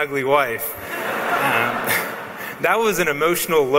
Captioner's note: laughs